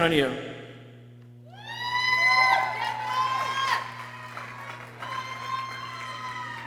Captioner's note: people cheering and exclaiming